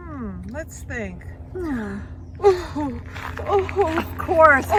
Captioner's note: brrrr!